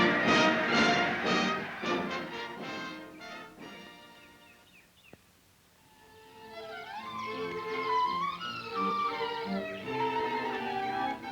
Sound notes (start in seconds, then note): 4.4 birds chirping; 5.8 gentle music